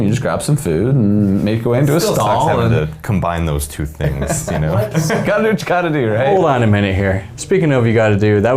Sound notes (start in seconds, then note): 4.0 men laughing